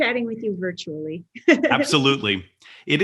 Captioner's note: laughs